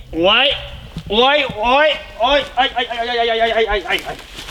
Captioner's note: unexpected diarrhoea sounds